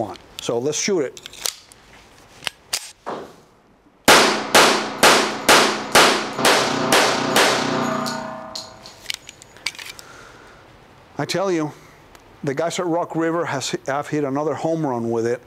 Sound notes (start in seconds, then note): 4.1 rapid fire